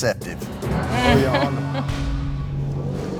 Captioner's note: chuckles in frustration